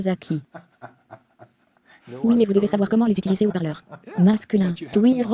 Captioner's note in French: Rires